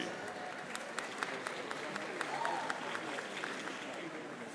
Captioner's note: audience applauding